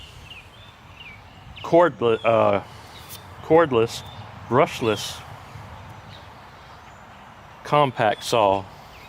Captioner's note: truck sounds